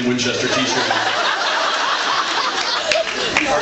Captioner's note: laughs